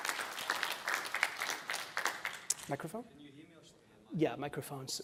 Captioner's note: applause